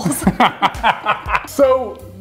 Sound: laughing

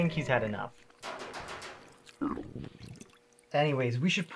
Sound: loud banging on window

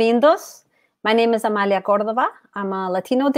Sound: speaks portuguese

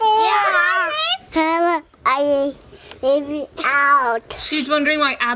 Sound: baby babbling

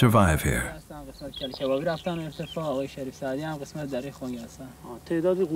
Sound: they speak Farsi

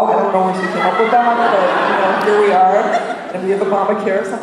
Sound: laughter

